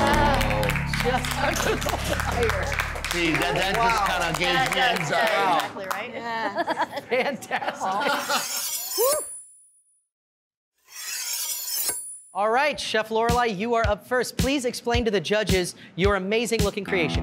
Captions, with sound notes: (judges applauding) That just kinda gave me anxiety. Fantastic! (laughing) (knives slicing) (knives slicing) All right, Chef Lorelei, you are up first. Please explain to the judges your amazing-looking creation here.